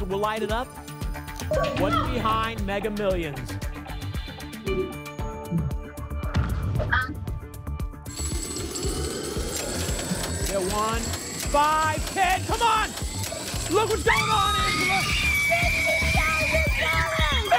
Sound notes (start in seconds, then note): 6.2 thump; 9.4 coins jingling